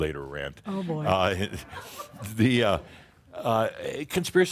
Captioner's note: a few chuckles